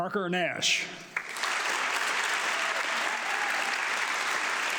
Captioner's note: audience clapping